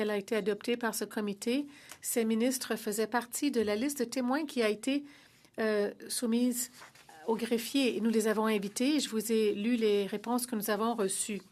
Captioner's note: speaking French